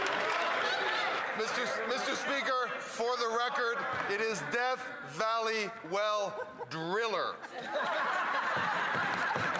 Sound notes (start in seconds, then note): 0.0 some Applause